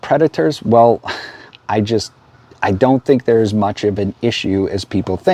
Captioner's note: sighs